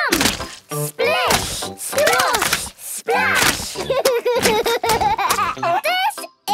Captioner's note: laughs